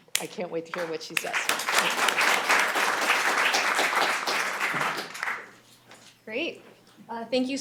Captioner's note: applause